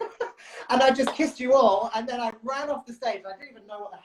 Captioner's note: laughs